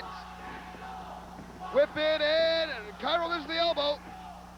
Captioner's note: crowd cheering